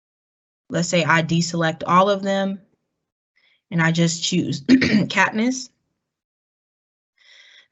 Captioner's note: cough